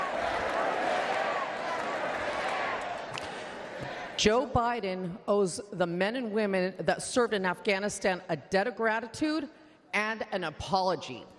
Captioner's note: chanting "never forget"